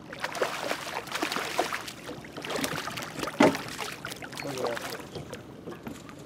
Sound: fish splashing

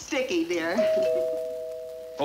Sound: doorbell rings

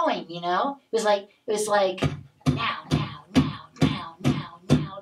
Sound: Mr. Max beatboxing

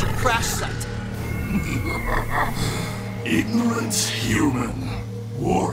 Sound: cackles

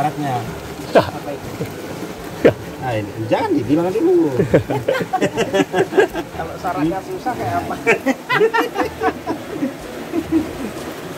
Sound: laughs

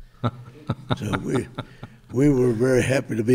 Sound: chuckles

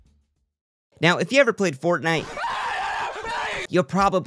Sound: screams of Pleasure

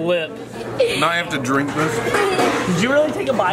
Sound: chuckles

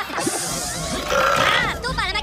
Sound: Stuart Burping

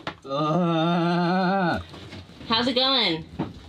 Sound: groaning

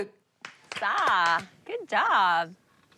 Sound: clapping

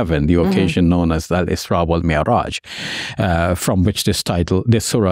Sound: speaks in Arabic

